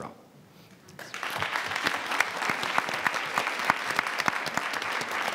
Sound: audience applauds

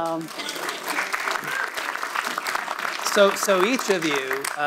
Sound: audience applauds

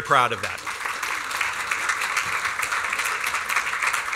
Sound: applause

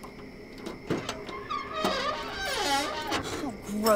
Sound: trunk lid creaking

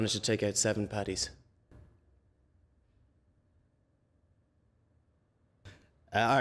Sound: awkward silence

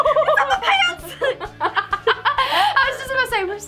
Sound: laughing

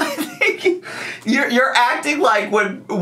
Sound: laughs

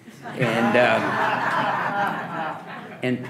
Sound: audience laughing

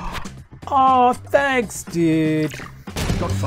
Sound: gasp

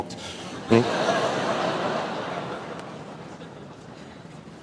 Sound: laughter

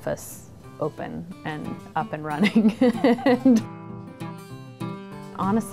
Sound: laughs

